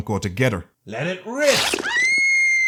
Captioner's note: screeching of a thousand suns